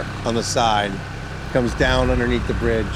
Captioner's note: engine revs